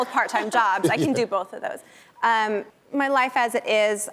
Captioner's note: laughs